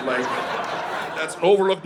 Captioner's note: audience laughing